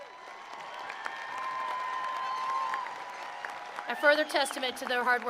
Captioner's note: attendees applauding